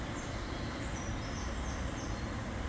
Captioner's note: none